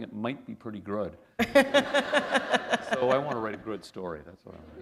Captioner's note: laughter